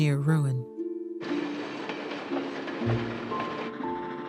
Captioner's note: train rumbling